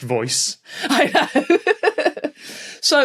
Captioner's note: laughs